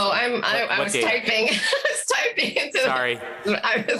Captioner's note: laughs